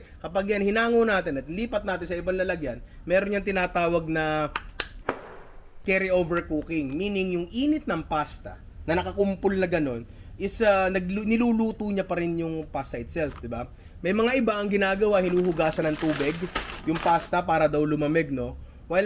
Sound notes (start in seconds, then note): 4.5 claps